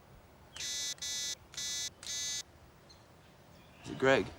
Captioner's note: beeping